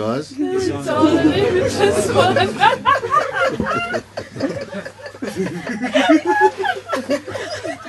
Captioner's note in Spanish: risas